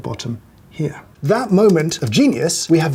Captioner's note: ominous typing